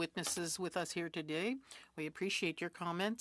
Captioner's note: speaking French